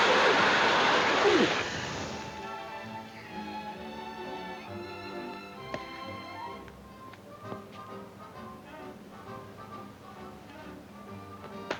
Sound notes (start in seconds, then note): 3.5 gentle music; 5.9 footsteps plodding; 5.9 gentle music